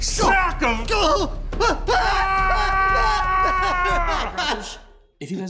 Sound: yelling

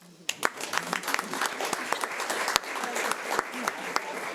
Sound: audience applauding

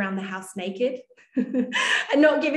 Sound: laughing

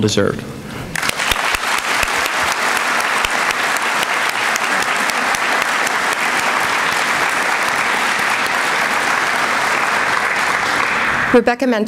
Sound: applause

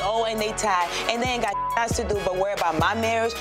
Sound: beep

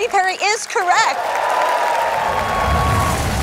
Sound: cheering

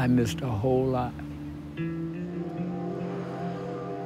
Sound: distant train whistles

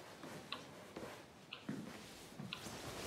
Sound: clock ticking

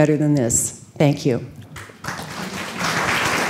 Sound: applause

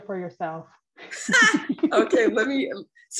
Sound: laughing

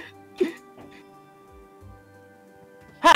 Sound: omg silence

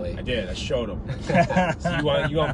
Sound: group laughing

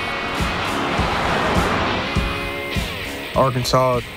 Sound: instrumental country music playing; car whooshing

